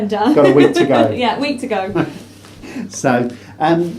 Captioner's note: laughs